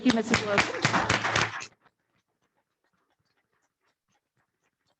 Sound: audience applauding

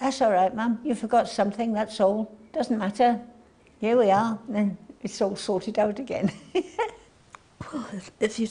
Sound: laughs

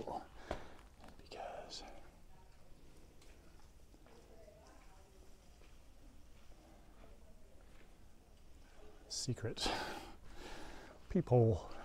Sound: background chatter

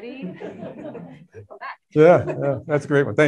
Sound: crowd chuckling

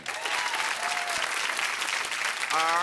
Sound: applause

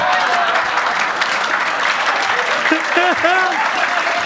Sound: audience applauding; Gary laughing

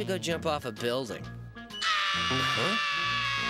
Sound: screaming

